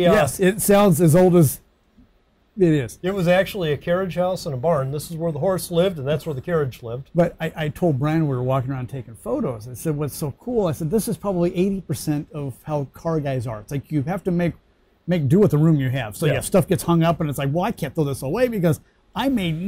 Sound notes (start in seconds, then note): none